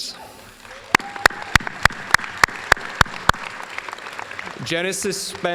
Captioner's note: applause